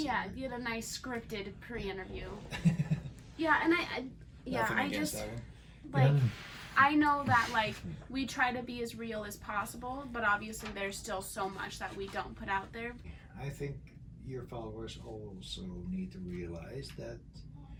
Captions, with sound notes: - Yeah, get a nice, scripted pre-interview. (laughs) Yeah, and I just... - Nothing against Ellen. - Like, I know that, like, we try to be as real as possible, but obviously there's still so much that we don't put out there. - I think your followers also need to realize that